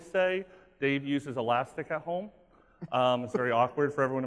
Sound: laughing

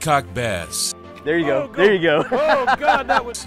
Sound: laughs

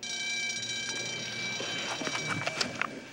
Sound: bell rings

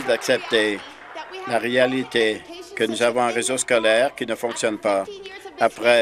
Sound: applause

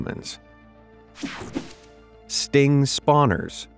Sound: picture whooshing

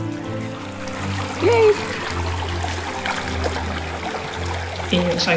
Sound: water trickling

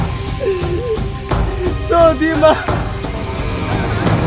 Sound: in Hindi

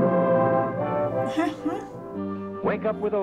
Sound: adventurous music; chuckles

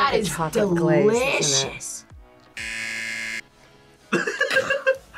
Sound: buzzer; laughs

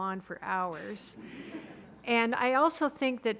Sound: audience laughing

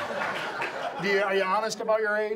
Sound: audience laughs

